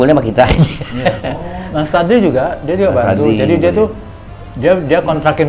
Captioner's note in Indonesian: tertawa